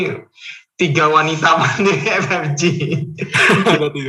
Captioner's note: laughing